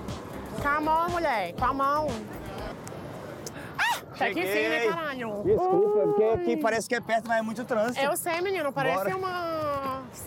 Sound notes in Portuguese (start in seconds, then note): 4.0 grita